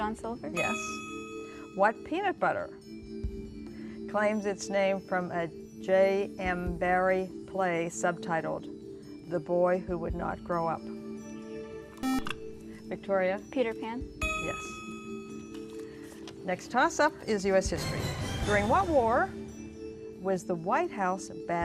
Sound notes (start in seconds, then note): 12.0 buzzer